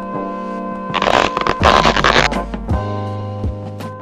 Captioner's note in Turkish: lastik esnetme sesi